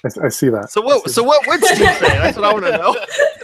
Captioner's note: laughing